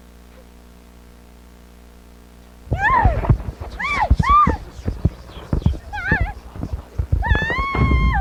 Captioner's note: disembodied whispers; Hannah screams as she is tossed out of the closet